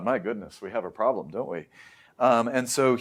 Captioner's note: inhales